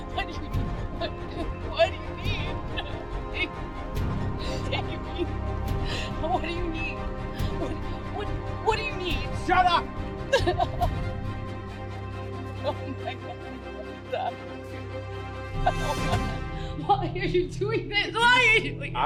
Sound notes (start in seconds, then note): 0.9 crying and pleading; 11.3 continues crying